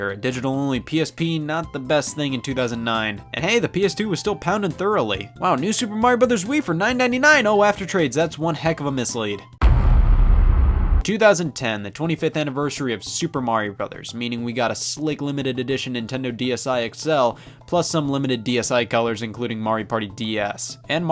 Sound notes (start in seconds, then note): 9.6 heavy thud